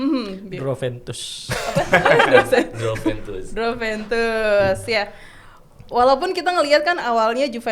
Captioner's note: laughs